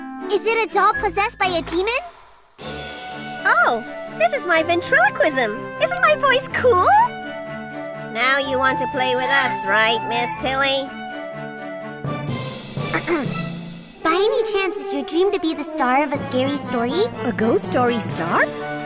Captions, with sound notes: Is it a doll possessed by a demon? Oh... This is my ventriloquism. Isn't my voice cool? Now you want to play with us. Right, Ms. Tilly? (clears throat) By any chance is your dream to be the star of a scary story? A ghost story star?